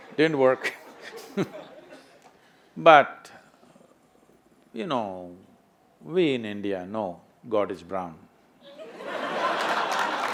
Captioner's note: few laugh; laughter/Applause